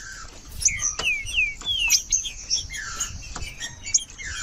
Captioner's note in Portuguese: trinca ferro cantando